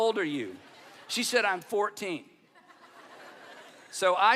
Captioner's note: audience laughing